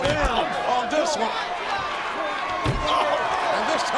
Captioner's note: head thuds